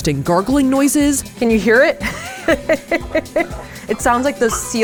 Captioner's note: laughs